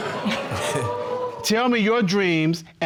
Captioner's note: audience chucking and groaning